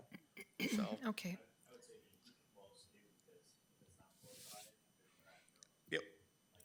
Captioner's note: attendees faintly speaking